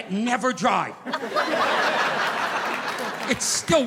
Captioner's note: audience laughing